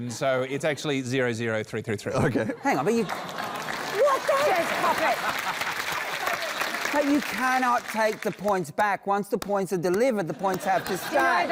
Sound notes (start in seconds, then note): 2.9 applause; 5.8 laughs